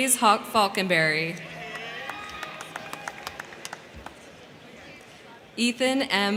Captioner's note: crowd cheering; crowd clapping